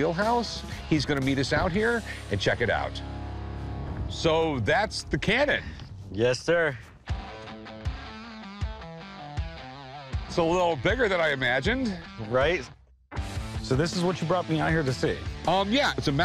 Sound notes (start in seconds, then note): none